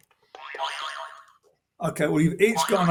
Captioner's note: boing